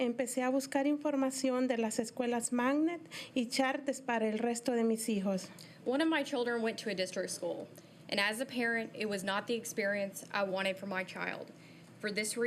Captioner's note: speaking in spanish